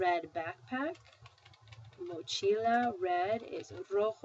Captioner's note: spanish; speaking spanish